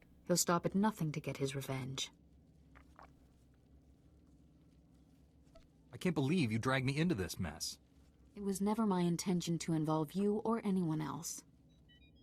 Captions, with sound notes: He'll stop at nothing to get his revenge. (footsteps) I can't believe you dragged me into this mess. It was never my intention to involve you or anyone else.